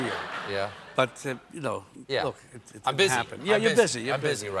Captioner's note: laughter